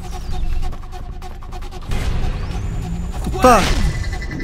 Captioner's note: photon gun charges up to fire